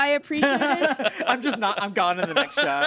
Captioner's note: everyone laughs